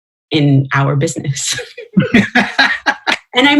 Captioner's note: laughter